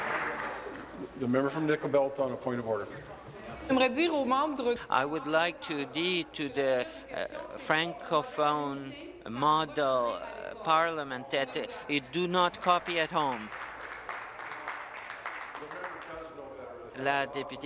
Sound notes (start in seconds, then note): 0.0 applause; 7.0 speaking in French